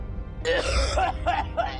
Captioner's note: coughs